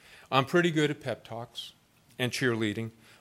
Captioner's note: none